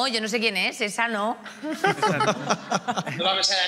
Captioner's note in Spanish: algunos ríen